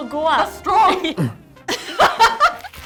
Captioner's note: grunts; laughs